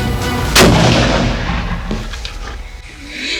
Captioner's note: gunshot